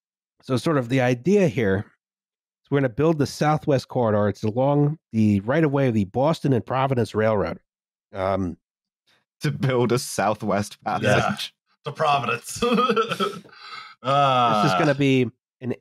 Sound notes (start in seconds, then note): 12.0 laughs